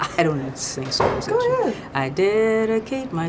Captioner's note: laughs